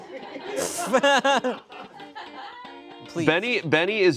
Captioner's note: laughing